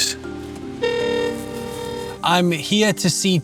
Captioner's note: gate Buzzing